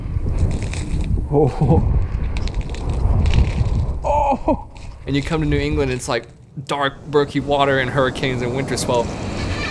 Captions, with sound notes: Oh, ooh. (ice cracking) And you come to New England it's like dark murky water and hurricanes and winter swell.